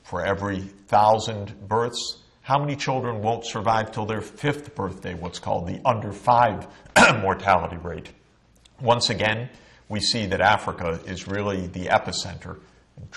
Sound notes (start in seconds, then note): 6.9 cough